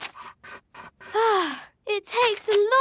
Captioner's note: sighs